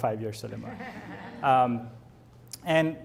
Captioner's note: audience laughs